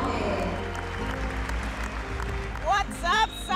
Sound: applause

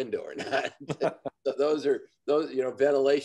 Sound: men laugh

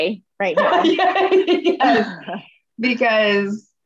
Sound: laughter

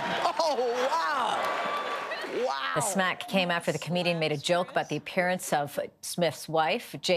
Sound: laughter

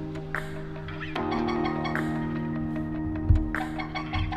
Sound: goose call

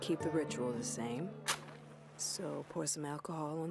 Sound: match scratching

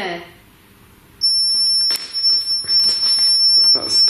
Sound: REM Pod screeches

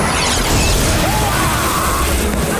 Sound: screaming

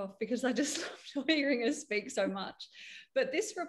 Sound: laughs

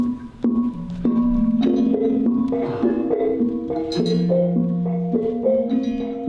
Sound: syncopated metallic sounds

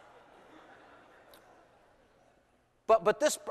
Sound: laughter

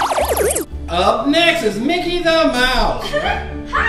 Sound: voiceover

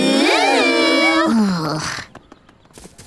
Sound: groaning

